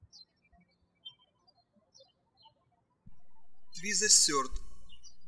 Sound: birds chirping

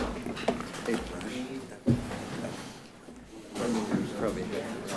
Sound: group chattering

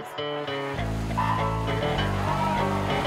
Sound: starting klaxon

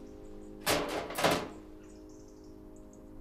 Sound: metal clangs

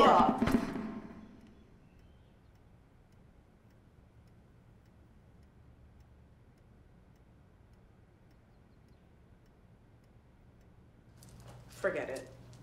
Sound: clock ticking

